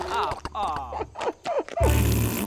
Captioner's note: colt giggles